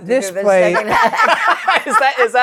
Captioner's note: laughter